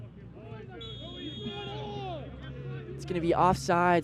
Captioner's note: whistle blows